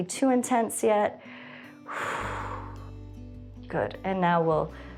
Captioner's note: exhales